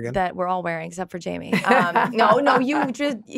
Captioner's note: all chuckling